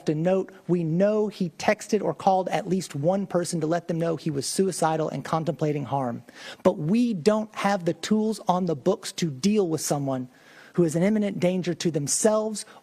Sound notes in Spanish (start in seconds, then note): 1.9 HABLAN EN INGLéS; 5.5 HABLAN EN INGLéS